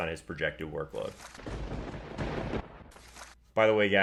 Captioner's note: thunder crash